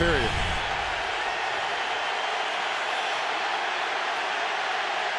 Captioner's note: crowd cheering